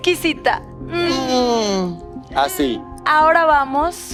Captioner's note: ʰᵘᵐᵖʰ